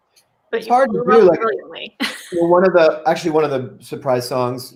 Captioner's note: laughs